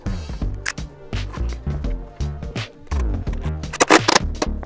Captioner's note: drill whirring